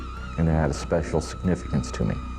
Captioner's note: eerie screeching